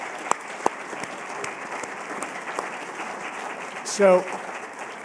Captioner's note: applause